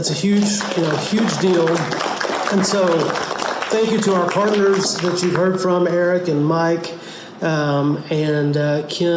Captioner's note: audience clapping